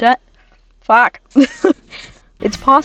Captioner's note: laughs